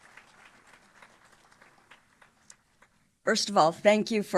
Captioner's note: applause